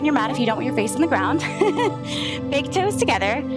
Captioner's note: laughs